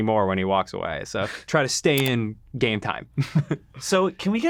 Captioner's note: chuckles